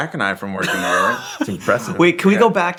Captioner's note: laughing